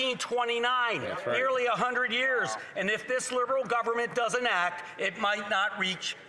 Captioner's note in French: voix de l'interprète